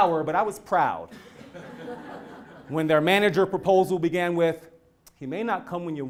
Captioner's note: laugh